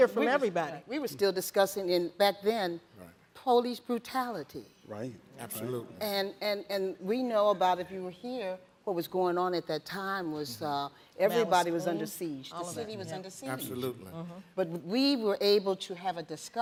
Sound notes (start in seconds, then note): none